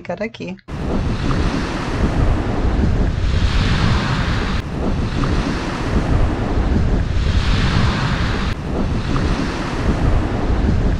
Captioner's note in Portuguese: Som do mar… Ondas